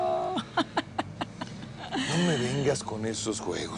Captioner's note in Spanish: Risas